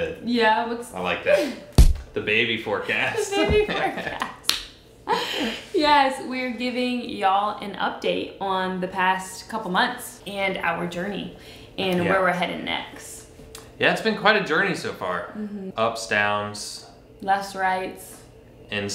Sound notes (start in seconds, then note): 1.7 hands thump; 3.0 laughs